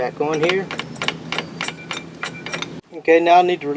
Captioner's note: nut clunks